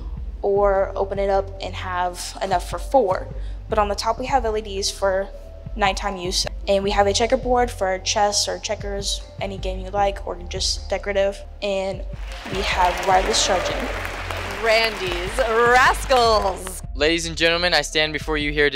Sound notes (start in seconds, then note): 12.1 crowd applauding